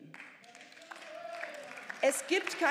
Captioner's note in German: Beifall